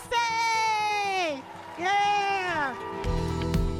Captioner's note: cheers and applause; mid-tempo music plays